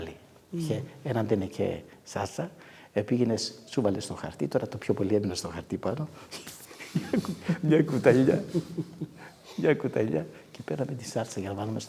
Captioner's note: laughing